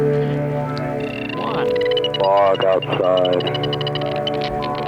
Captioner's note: Booper beeping